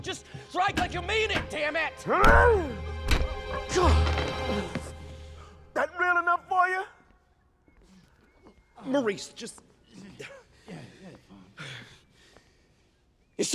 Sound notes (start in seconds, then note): 2.3 grunts; 3.9 groans